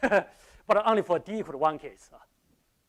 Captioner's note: laughs